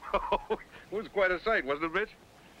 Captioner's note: man laughing